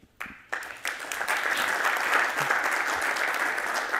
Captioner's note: applause